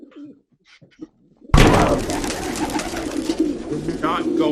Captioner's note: The sound of Billy hitting Vera to the ground. Sound of a flurry of pigeons